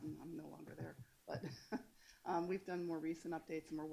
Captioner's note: laughs